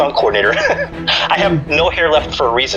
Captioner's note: laughing